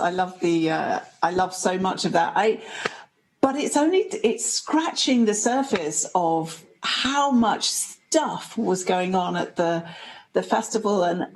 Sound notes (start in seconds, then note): none